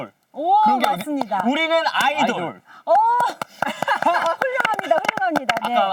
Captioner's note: claps